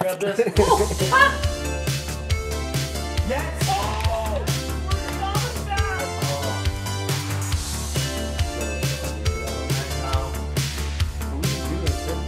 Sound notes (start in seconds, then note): 0.2 upbeat music; 5.3 cheers